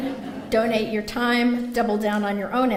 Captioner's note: laughter